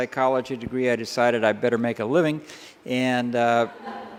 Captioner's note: laughter